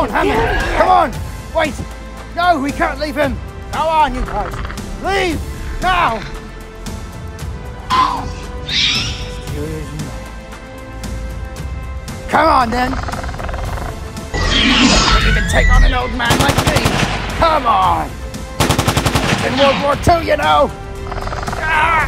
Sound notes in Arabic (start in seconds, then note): 7.9 أصوات رابتور; 14.2 أصوات فيلوسيرابتور; 16.2 أطلقت طلقات